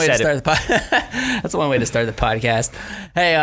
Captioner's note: laughing